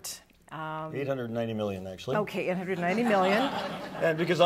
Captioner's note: laughter